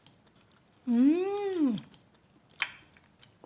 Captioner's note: makes yummy noise